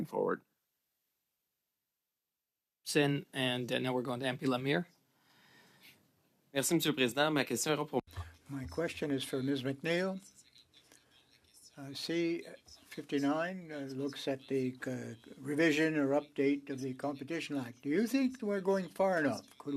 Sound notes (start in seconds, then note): 12.2 speaking French